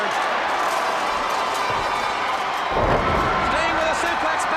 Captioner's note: crowd cheering